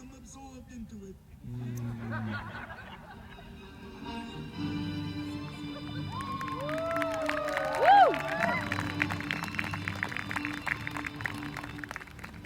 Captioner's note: applause